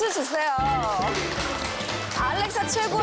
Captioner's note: the production team cheering